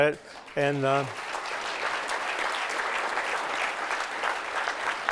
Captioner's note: applause